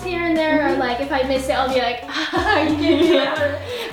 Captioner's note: laughs